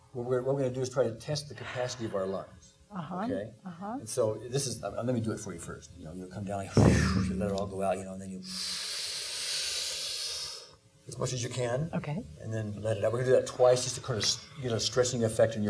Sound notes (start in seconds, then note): 6.5 exhaling; 8.4 sharply inhaling